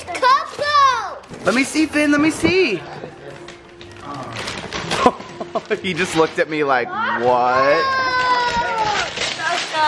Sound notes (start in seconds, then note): 4.8 laughs